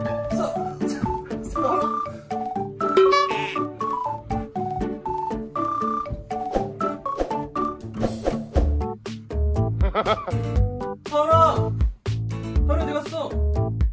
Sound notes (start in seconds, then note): 7.9 swinging